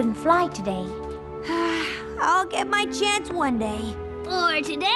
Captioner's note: sigh